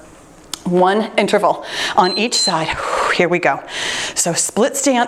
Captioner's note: timer beeps